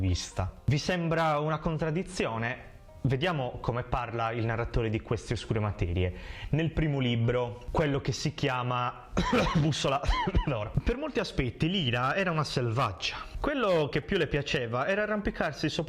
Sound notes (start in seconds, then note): 9.2 coff .. coff